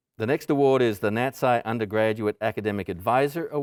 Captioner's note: none